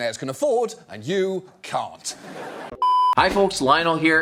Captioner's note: audience laughing